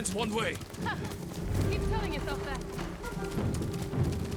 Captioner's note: laugh